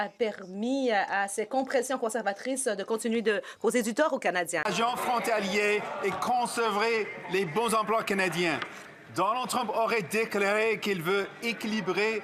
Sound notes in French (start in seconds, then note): 2.1 voix de l'interprète